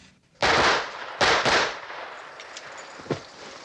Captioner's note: gunfire